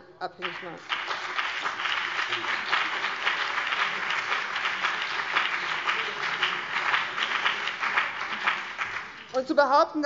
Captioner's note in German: Beifall BÜNDNIS 90/DIE GRÜNEN, vereinzelt CDU und DIE LINKE